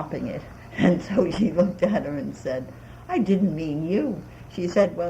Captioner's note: laughs